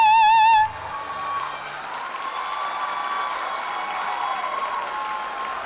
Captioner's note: audience cheers and applauds